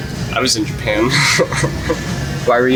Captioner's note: laughs